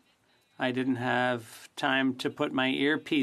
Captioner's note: speaking French